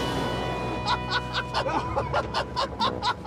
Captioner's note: laughter